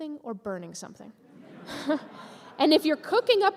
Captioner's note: laughter from audience